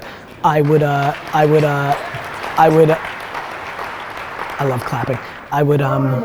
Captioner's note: stammering